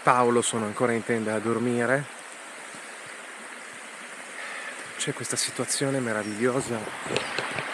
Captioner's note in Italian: Applauso